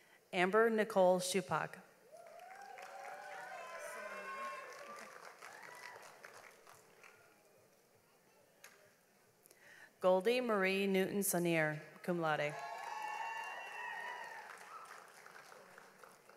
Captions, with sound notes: Amber Nichole Shupak. (audience applauds) Goldie Marie Newton Sonnier, cum laude. (audience applauds)